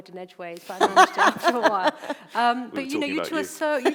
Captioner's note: laughs